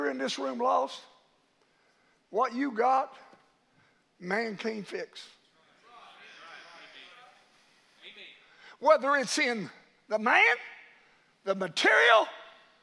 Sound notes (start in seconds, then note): 5.6 congregation murmurs in agreement